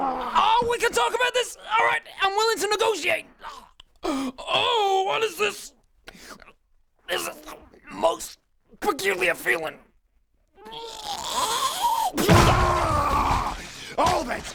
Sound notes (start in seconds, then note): 12.2 squelchy pop